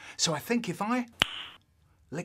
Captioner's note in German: zungen clicken